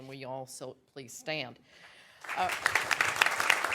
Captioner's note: applause